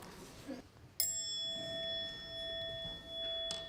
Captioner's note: bell tone sounding